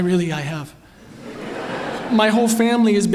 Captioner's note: laughter